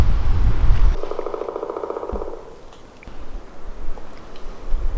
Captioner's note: woodpecker pecking